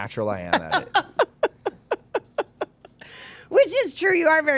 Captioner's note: laughs